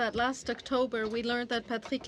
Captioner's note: speaking French